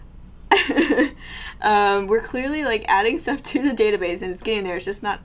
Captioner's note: laughs